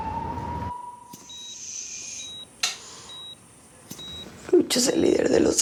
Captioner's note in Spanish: Sonidos de telemetría